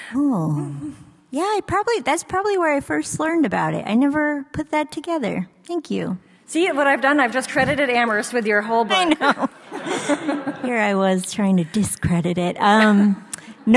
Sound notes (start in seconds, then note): 8.8 laughs; 10.4 audience laughs